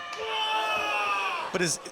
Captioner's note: Adrian screams